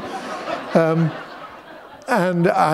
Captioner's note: laughter